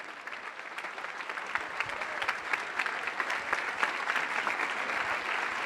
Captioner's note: applause